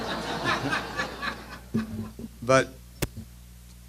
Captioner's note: laughter